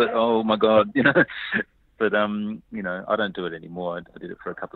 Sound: laughs

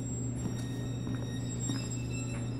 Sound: footsteps

